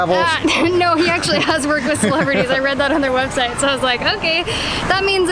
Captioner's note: laughs